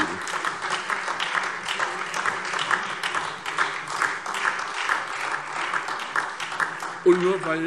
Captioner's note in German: Beifall SPD, Freie Demokraten und DIE LINKE